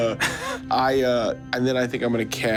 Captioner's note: giggles